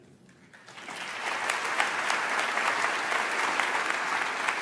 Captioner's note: audience applauds